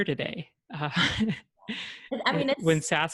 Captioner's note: chuckles